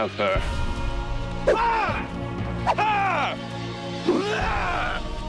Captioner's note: shouting